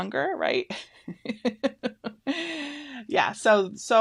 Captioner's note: laughs